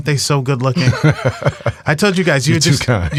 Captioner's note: laughs